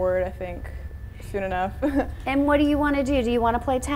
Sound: laughs

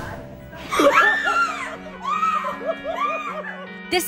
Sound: screaming

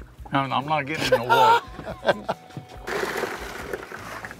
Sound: laughing

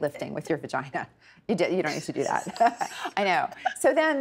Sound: laughing

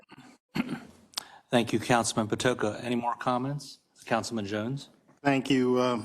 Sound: cough

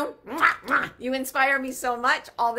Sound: lips smack

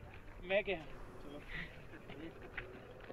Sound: chuckles

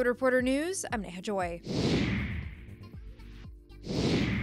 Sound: air whooshing

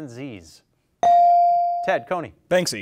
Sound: bell dings

